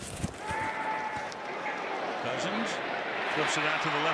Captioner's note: shuffling